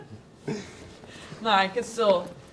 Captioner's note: laughing